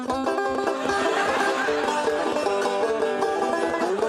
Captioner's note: banjo strumming; audience laughing; banjo strumming